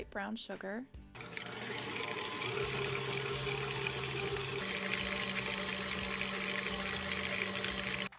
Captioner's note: sound of mixer mixing cream cheese and brown sugar